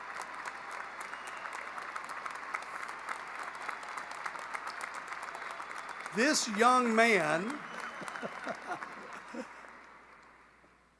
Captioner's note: applause